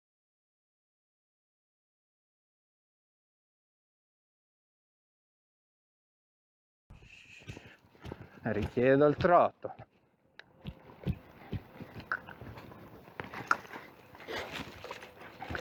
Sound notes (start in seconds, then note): 13.2 cluck